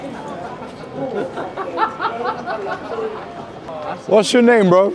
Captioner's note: passersby laugh